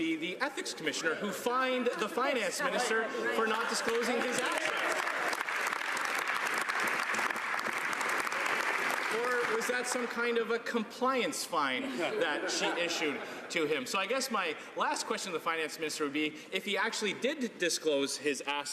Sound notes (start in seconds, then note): 9.4 some Applause